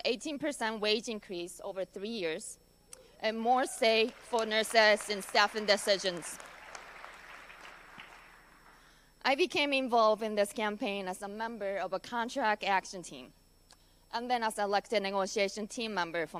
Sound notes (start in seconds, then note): 6.3 applause